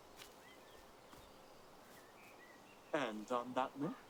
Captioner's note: birds singing